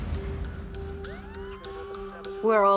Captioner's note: siren